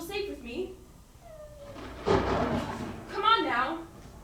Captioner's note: whimper, thunder